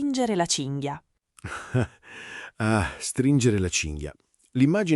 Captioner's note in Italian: Haha